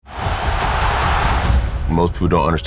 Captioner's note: crowd cheering